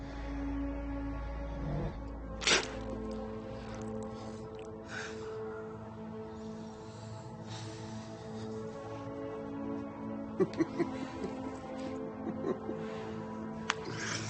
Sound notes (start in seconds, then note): 3.8 uneasy music continues; 10.2 LaFleur laughing